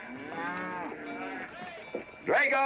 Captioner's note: cattle mooing